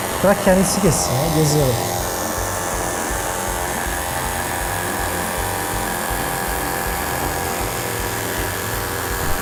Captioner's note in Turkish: Elektrikli motor sesi